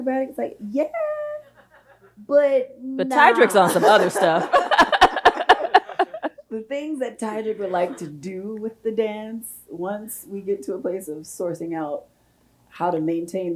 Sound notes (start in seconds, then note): 4.7 both laughs